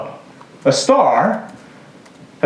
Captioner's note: none